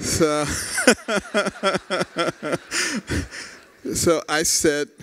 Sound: laughter

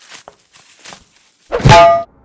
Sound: bonk

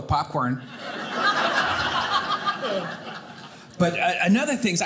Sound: audience laughing

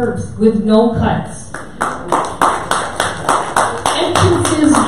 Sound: audience applause

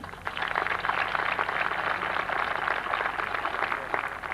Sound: applause

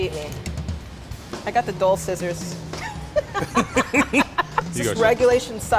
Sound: laughs

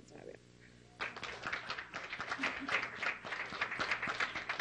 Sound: clapping

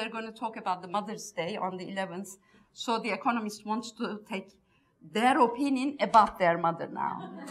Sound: laughs

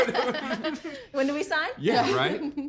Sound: laughs

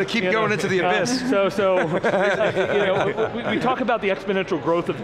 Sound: group laughs

